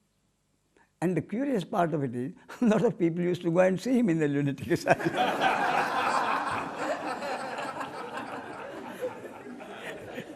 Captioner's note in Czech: smích